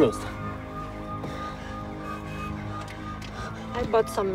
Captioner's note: sirens wail